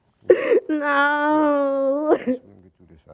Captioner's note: crying